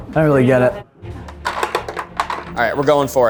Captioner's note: ball thuds